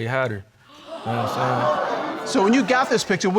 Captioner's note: audience gasping